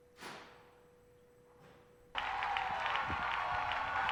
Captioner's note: applause